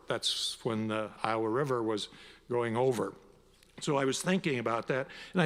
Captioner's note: none